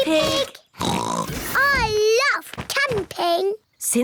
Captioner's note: oinks